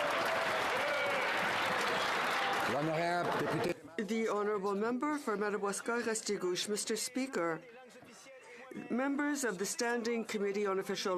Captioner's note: some Applause